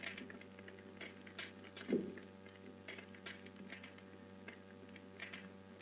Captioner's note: fire crackles